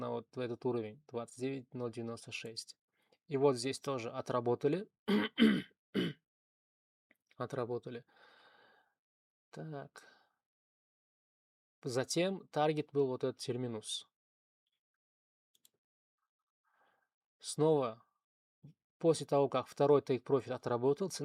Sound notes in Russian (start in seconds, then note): 5.1 кашель; 5.1 откашливается